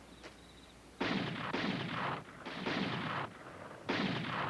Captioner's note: gunfire